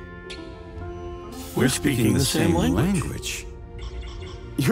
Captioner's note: both, in unison